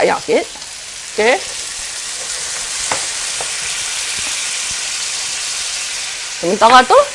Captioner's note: sizzling pan